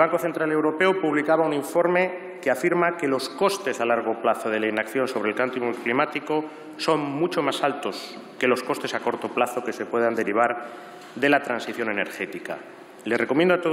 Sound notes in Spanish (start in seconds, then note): none